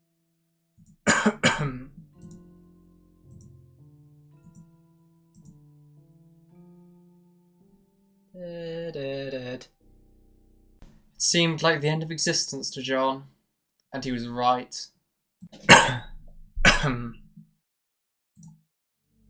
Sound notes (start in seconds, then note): 1.0 more Posh Coughing